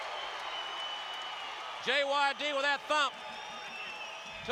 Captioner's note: applause